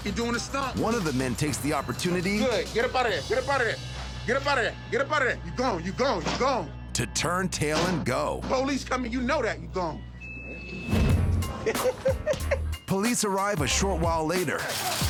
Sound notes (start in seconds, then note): 11.3 upbeat music; 11.5 camera Person 2 laughing